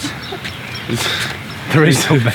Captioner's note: laughs